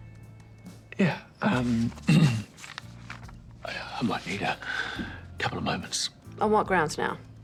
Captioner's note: clears throat